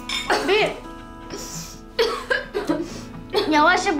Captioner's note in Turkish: Öksürüyor